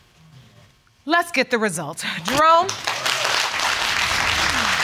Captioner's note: audience clapping; sighs